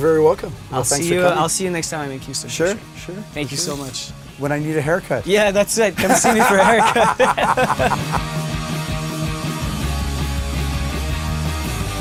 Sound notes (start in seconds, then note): 6.0 laughing